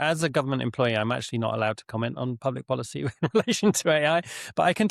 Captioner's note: laughs